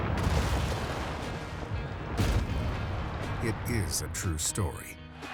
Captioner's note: cheering